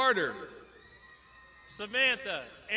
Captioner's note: crowd shouting